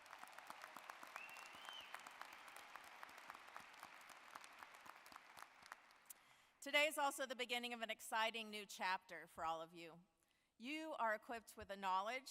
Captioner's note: applause